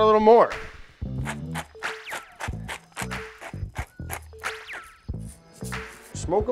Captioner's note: funky rhythmic music; pepper grinder grinding